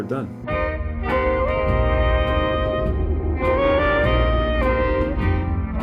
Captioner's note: upbeat music; air whooshing